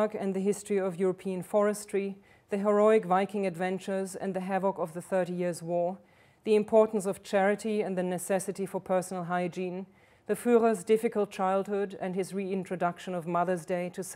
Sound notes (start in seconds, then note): none